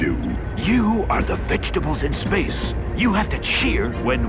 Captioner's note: whispering